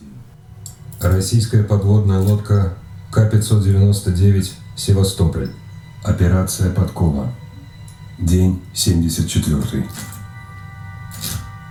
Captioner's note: movie playback